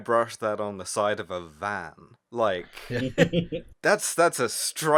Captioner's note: laughter